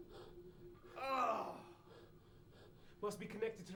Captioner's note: groans